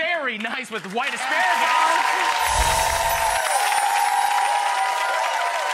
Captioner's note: audience applauds